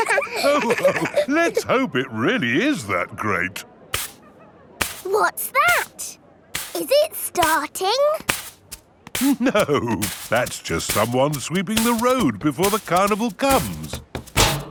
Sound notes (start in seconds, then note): 0.0 all laughing; 3.9 brushing